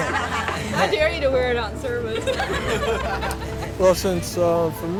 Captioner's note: laughter